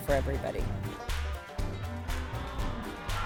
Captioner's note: sound of announcer